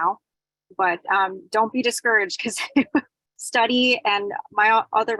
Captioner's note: chuckles